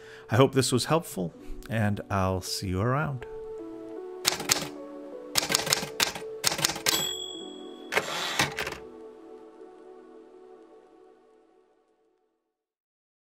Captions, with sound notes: I hope this was helpful. And I'll see you around. [typewriter sounds]